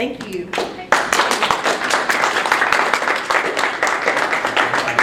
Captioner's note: audience clapping